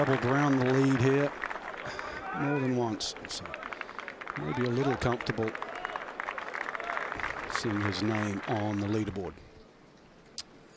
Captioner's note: applause